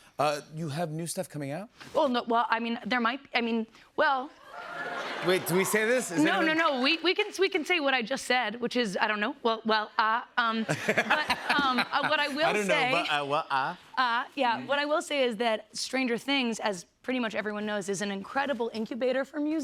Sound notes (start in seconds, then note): 4.5 laughter; 10.6 laughs